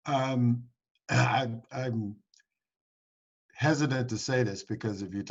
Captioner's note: clears throat